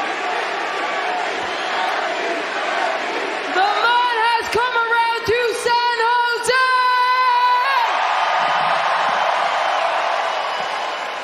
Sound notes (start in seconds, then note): 3.1 cheers and applause